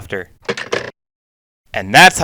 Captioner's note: phone hangs up